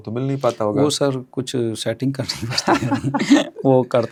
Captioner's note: laughs